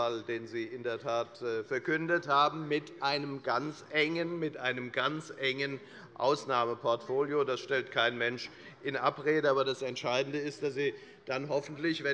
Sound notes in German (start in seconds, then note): none